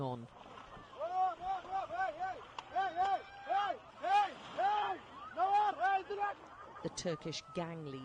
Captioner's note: shouting